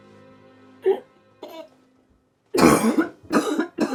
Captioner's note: Betsy coughing